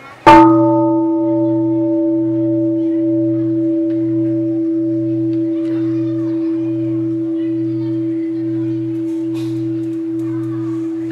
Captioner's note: gong sound